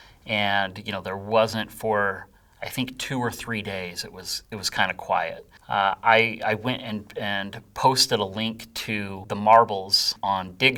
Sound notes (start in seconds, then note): none